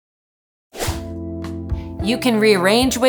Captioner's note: screen whooshing; jazz music